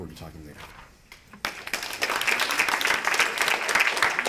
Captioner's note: applause